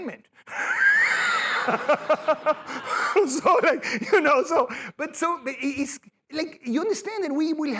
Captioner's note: laughter